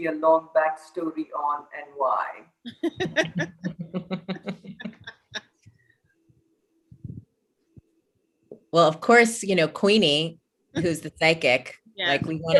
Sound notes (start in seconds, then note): 2.7 laughter